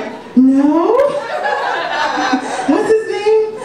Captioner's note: audience laughs